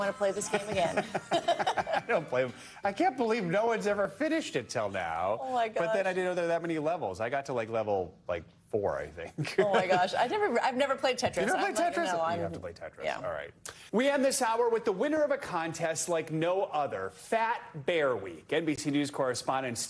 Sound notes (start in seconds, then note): 9.3 laughter